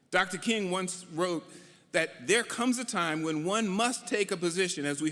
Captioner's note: none